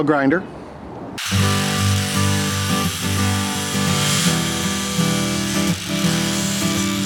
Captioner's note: grinding sounds